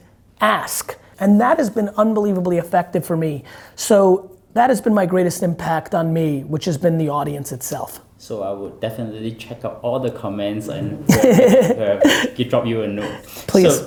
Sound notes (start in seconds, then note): 10.9 Gary laughs